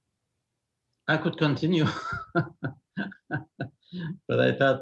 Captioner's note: laughs